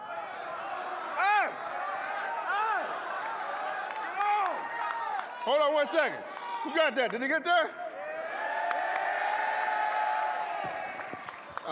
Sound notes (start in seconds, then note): 0.0 audience shouting; 7.9 audience cheering